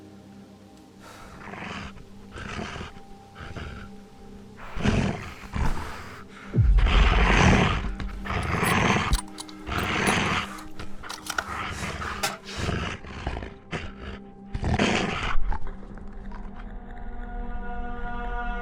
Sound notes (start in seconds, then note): 1.3 wolf growling; 8.1 shell clacking; 8.2 wolf growling; 16.0 eerie music